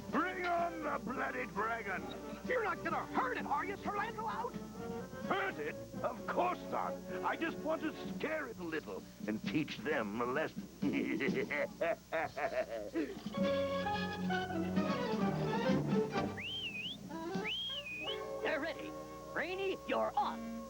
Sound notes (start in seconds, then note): 12.8 laughs; 16.1 whistles